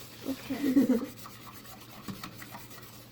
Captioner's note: both laugh